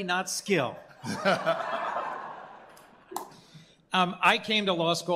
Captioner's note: laughter